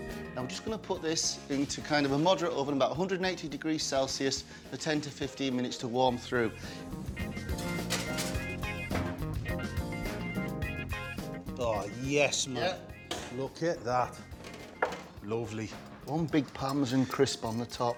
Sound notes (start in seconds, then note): 7.2 pan clanging; 7.4 oven thuds; 9.5 upbeat music